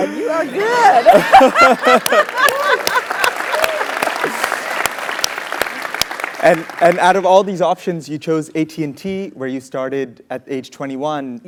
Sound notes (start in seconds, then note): 3.1 laugh; 4.5 applause